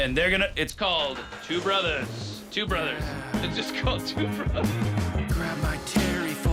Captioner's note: laugh